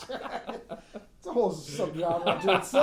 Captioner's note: laughing